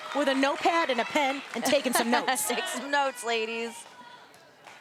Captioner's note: laugh